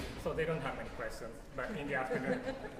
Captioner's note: laughter